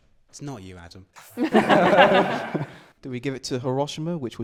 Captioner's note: laughter